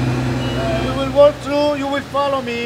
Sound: talking

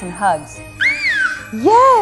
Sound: yells in excitement

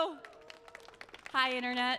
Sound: audience claps

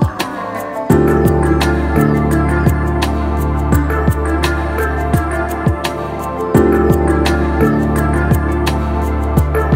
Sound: humming

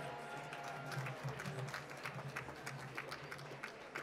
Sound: applause

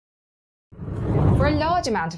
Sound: air whooshes

